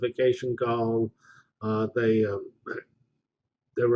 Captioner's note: pause